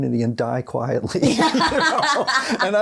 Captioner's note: both laughing